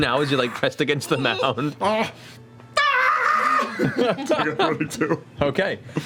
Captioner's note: screams